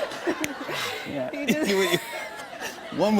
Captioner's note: both laugh; laughter